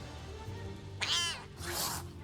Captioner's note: cat hissing